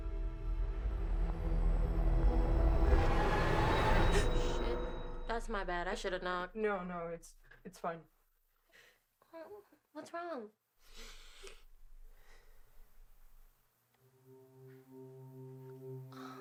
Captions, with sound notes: (tense music) (Jordyn gasps) - Oh shit, that's my bad. I should have knocked. - No, no, it's, it's fine. - Oh, wha-what's wrong? (Jordyn sniffling) (solemn music)